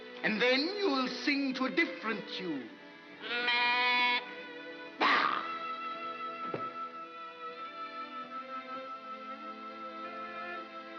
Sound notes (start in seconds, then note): 3.2 sheep baas; 5.9 soft music